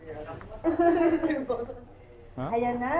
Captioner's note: laughs